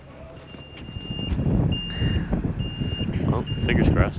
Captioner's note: truck beeps